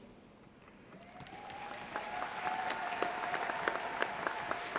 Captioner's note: audience applauding